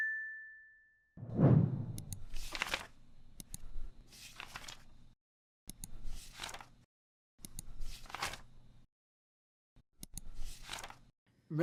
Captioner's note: ding; clicks And Page Turning Sounds